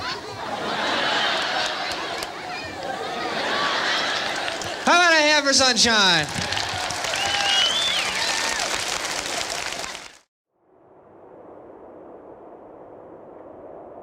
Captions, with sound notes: How about a hand for Sunshine? [audience applause] [wind howling]